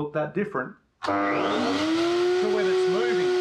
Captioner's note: electric motor roaring